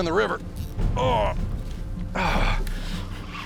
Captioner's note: grunts